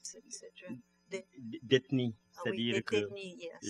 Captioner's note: speaking french